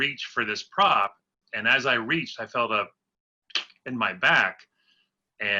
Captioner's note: pop